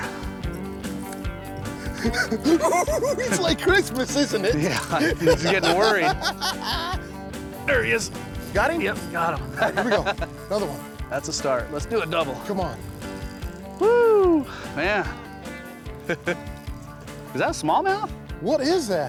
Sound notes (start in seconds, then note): 1.5 giggling; 6.0 laughing; 15.5 laughs